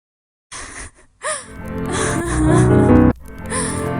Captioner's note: record skipping; girl sobbing